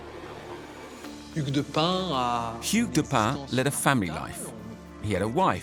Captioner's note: speaking French